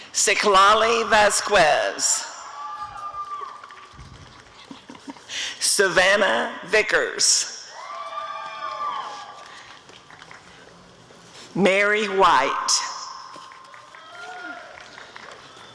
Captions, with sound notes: Xitlali Vasquez [audience cheering] Savannah Vickers [applause and cheering] Mary White [applause and cheering]